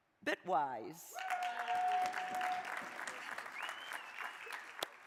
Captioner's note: crowd applauding